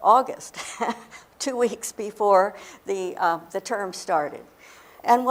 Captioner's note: laughs